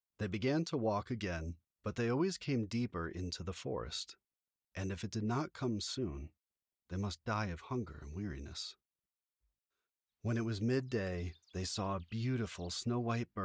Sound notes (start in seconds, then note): 10.2 nearby bird song